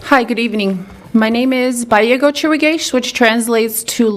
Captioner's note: speaks in a foreign language